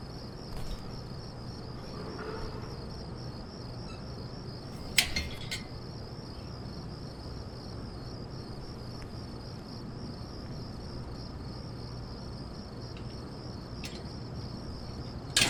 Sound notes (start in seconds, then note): 4.7 gate squeaks and clangs